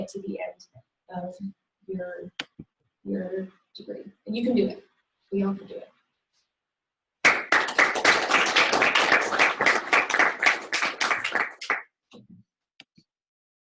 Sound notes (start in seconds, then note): 7.2 applause